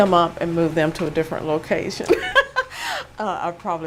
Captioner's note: chuckle